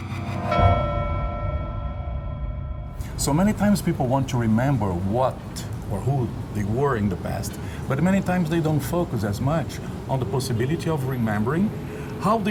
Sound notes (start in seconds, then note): 0.0 bell chiming